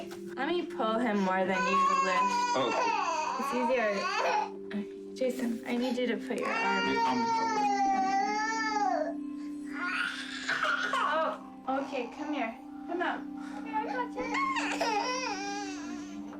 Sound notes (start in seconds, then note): 7.8 crying